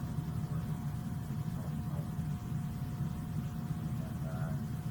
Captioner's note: student speaks faintly